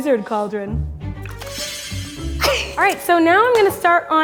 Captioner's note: magic spell effect